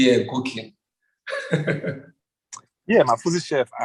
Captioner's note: laughs